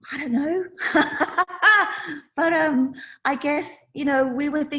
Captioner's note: laughs